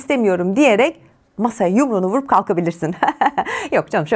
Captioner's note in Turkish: kahkaha